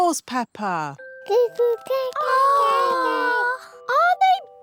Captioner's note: babies gurgle